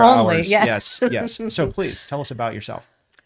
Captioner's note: laughs